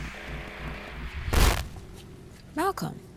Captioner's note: static